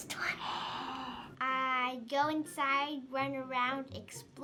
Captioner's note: React gasps